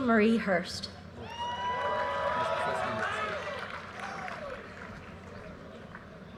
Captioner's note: audience cheers and applause